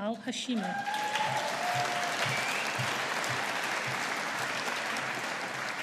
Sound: audience applauding

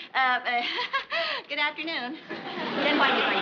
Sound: nervous laugh

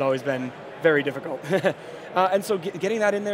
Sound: laughs

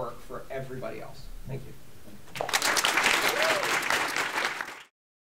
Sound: applause

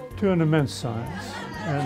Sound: students laughing

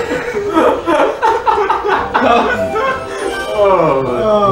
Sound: laughs

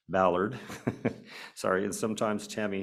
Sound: chuckles

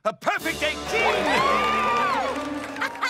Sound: cheering

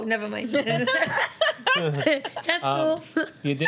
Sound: laughter

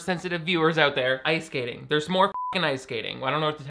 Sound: beep

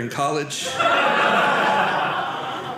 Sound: audience laughing

